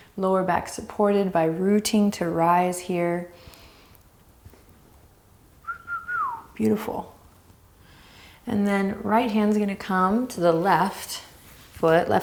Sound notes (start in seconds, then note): 5.6 whistles